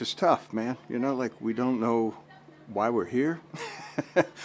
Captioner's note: laughs